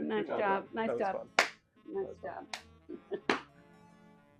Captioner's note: high-fiving